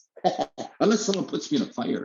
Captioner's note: chuckling